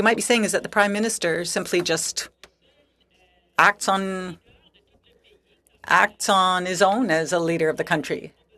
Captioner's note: speaking French